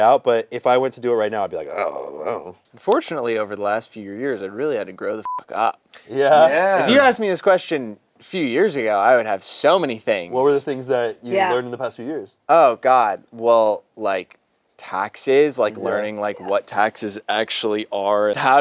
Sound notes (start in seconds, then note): 5.2 beep